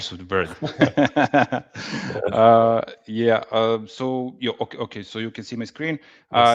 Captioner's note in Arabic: ضحك